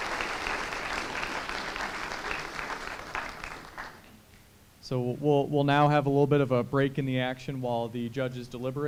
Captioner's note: applause